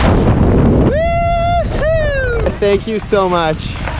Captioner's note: wind blowing; cheering